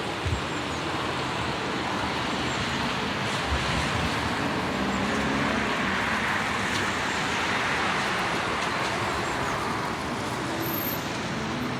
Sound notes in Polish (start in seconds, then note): 3.5 the sound of moving cars